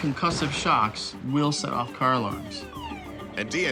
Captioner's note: car alarm blaring